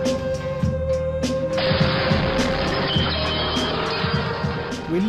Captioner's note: explosion